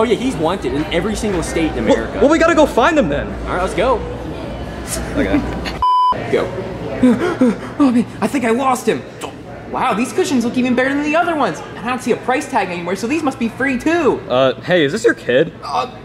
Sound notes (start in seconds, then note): 5.1 voice Actor laughs; 5.8 beep; 7.0 panting